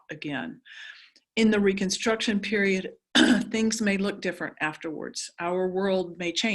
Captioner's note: cough